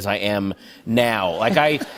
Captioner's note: laughter